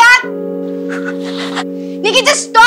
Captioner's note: Nikki laughing